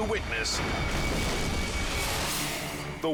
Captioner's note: building explodes